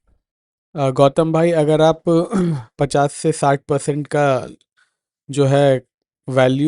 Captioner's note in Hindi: गला साफ़ करने की आवाज़